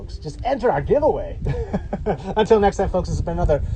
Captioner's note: laughs